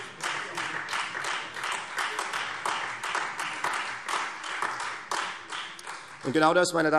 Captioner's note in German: Beifall Freie Demokraten